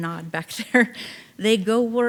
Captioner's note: chuckling